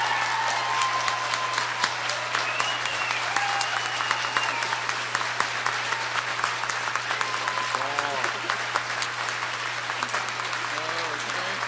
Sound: applause

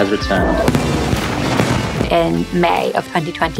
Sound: rockets booming

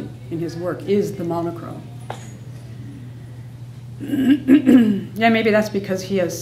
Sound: clears throat

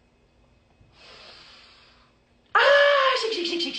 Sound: inhaling deeply

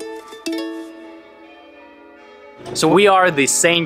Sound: bells tolling

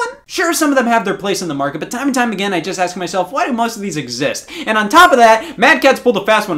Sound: none

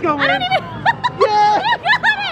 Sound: laughing

